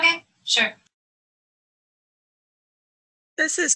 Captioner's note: pause